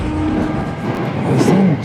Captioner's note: train horn